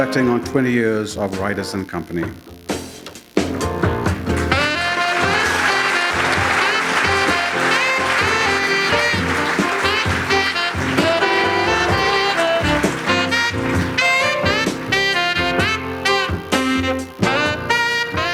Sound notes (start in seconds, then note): 7.1 applause